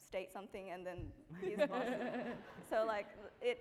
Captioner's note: laughing